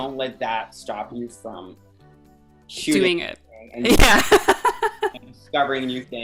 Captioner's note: laughs